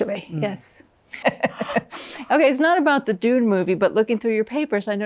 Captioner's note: laughs